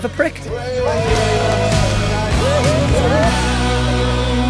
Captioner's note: people cheering